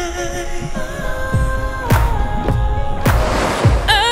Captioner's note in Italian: ah ah ah